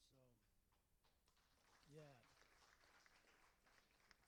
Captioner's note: applauding